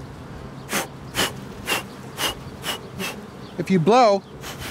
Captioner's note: blowing